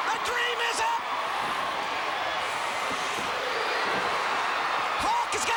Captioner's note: crowd cheering